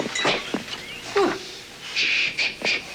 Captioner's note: shushing; whispering